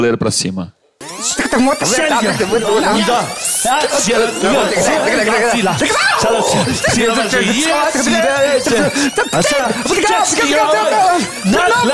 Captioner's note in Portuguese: fita rebobinando